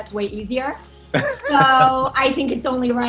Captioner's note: laughing